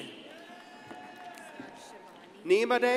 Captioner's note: crowd cheering and applauding